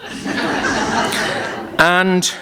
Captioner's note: laughter